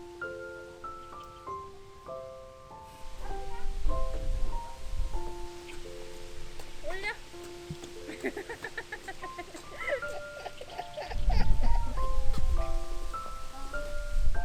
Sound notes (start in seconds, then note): 8.0 laughs